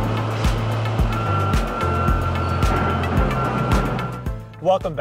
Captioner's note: upbeat electronic music; back up alarm